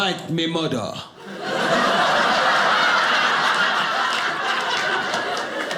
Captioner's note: audience laughing